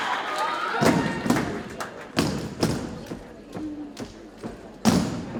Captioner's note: cadets thump rhythmically